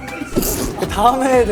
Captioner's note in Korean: 푸흡